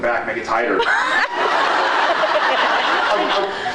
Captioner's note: laughs